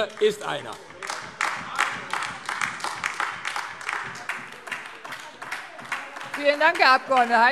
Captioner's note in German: Beifall AfD – Zuruf: Oh!